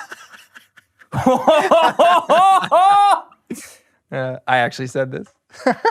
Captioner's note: both laughing; laughs; laughs